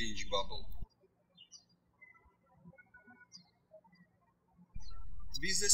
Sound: birds chirping

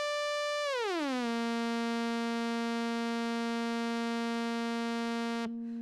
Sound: buzzing slides to higher pitch; buzzing slides down to lower pitch

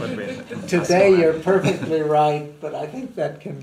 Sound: laughter

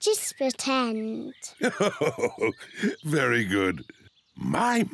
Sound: laughs

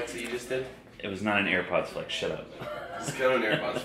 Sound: laughter

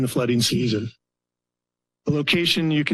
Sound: pause

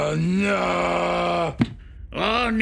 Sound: head thudding

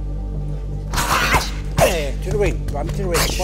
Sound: martial yells

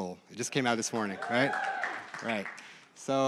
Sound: applause

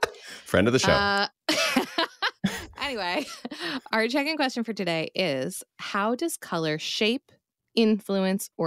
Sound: laughs

